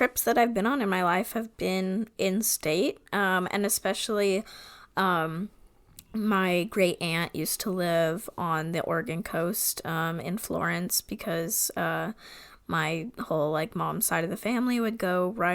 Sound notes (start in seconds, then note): none